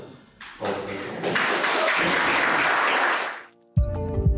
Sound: applause

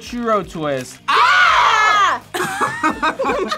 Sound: both scream; group laughs

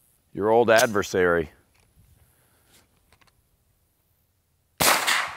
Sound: gun firing repeatedly

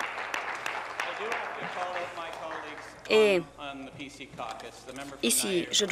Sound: applause

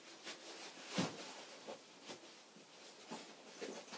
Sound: fabric rustles

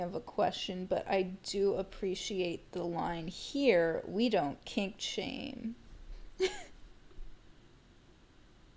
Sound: laugh

